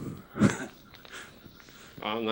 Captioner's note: chuckles